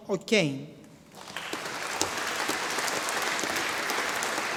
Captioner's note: audience applauding